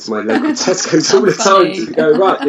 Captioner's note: laughs